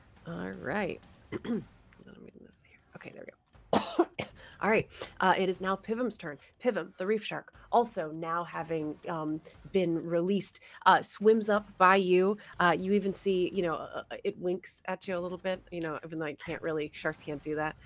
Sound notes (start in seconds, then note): 1.3 clears throat; 3.7 coughs